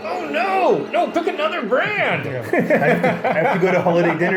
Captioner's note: laughs